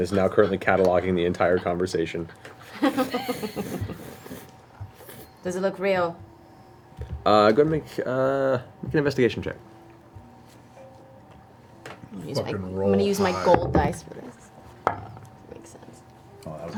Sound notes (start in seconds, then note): 2.6 all laugh